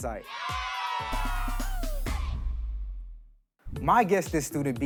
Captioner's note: crowd cheering; energetic music